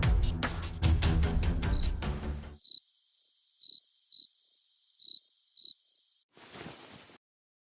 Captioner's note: crickets